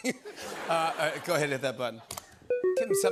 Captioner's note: beeping